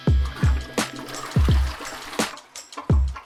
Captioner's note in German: WC-Spülung